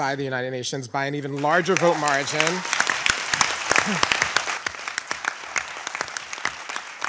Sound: audience applauding

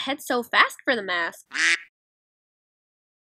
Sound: quack

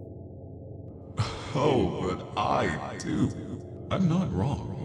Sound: laughs

